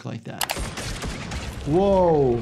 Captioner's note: gunfire banging